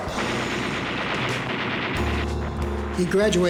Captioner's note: bombs exploding; machine guns firing